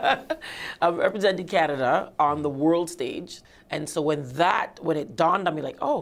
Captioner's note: laughter